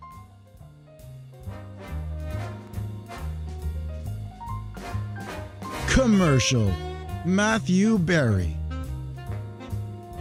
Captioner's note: applause